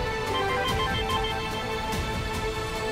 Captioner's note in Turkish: Telefon çalıyor